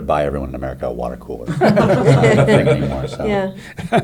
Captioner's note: laughing